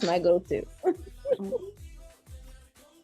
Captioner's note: laughs